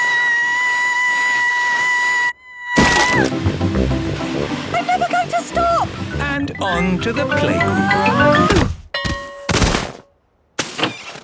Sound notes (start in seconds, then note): 2.2 screaming; 7.3 exclaiming and grunting; 8.9 bell ringing